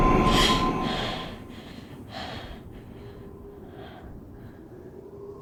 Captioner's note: jump scare music; Kat gasps and breathes heavily